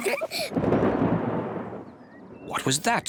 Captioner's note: both giggle; thunder rumbling